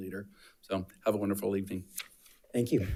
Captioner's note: paper rustling